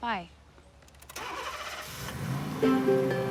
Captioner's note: car Starting